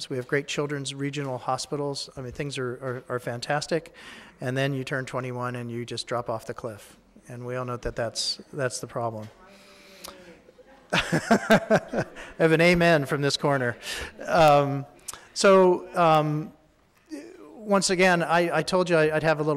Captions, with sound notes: We have great children's regional hospitals. I mean, things are fantastic, and then you turn 21 and you just drop off the cliff and we all know that that's the problem. (laughing) I have an amen from this corner. So, once again I told you I'd have a little hint of this,